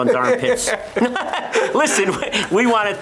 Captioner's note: both laughing